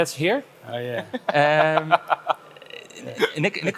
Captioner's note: laughs